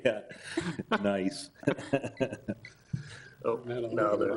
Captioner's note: laughs